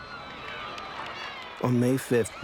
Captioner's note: cheering